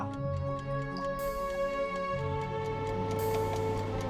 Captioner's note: timer ticking